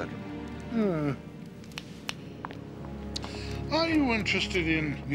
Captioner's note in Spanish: chasqueando los dedos